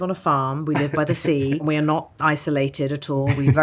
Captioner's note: laughs